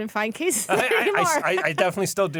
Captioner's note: laughs